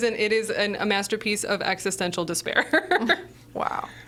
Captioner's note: laughing